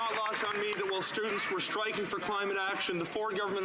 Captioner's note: some Applause